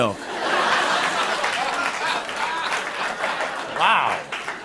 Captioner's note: laughter